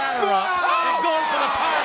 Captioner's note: Jeff grunts